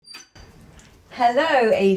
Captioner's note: door squeaks